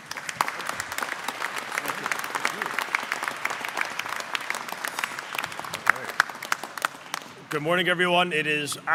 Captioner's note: applause